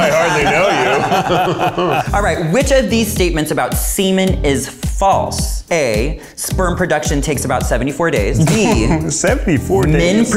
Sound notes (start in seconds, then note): 0.0 all laughing